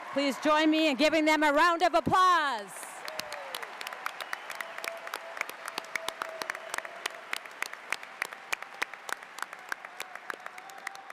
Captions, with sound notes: Please join me in giving them a round of applause. (audience applauds) (cheering)